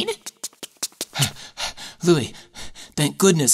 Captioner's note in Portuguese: Ofegante